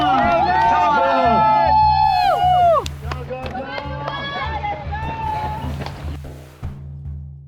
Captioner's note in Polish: Aplauz